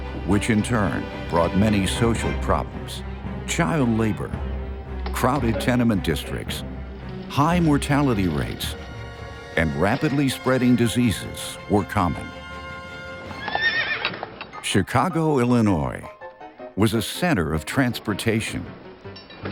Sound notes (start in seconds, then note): 13.3 horse neighs